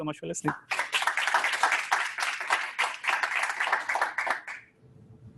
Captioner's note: audience applauding